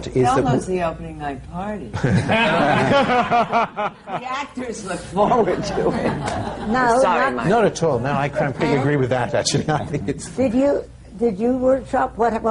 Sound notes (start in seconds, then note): 2.0 laughter